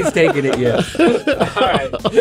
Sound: laughing

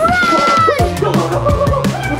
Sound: yelling

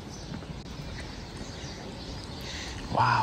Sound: birds chirping

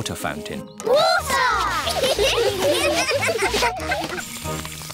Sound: laughter

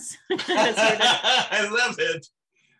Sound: laughing

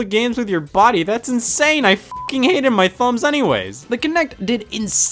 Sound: beep

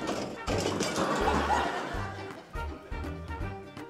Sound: laughter

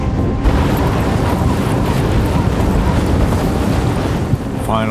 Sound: wind whirring

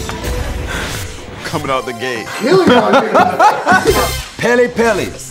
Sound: laugh

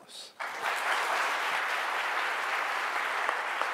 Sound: audience applauds

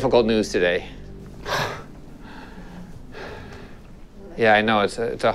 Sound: sighs

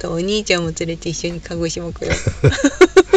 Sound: laughs

